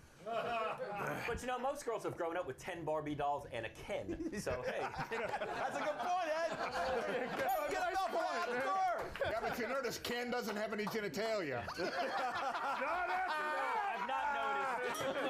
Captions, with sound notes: CLEARLY, THE PEOPLE WHO SUPPORT POLYGAMY HAVE NEVER BEEN MARRIED. - BUT YOU KNOW, MOST GIRLS HAVE GROWN UP WITH TEN BARBIE DOLLS AND A KEN, SO HEY. - THAT'S A GOOD POINT, ED! [Applause] - YEAH, BUT YOU NOTICE KEN DOESN'T HAVE ANY GENITALIA? - NOT AFTER THAT! - I'VE NOT NOTICED.